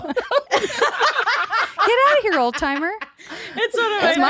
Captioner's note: laughing